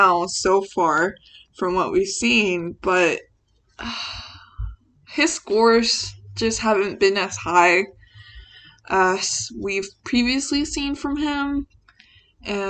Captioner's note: sighs